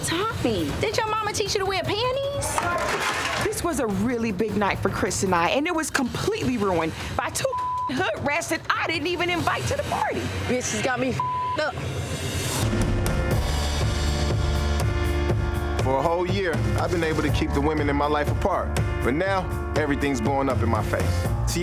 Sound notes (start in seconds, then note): 7.4 beep; 11.1 beep; 12.5 slow hip hop music